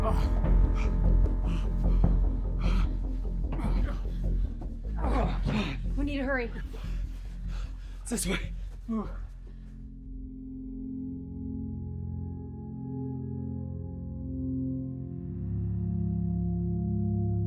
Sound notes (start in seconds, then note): 0.0 labored breathing; 4.9 grunting; 10.0 melancholy orchestral music